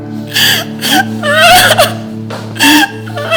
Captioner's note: sobs